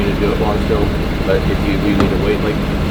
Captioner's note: faintly speaking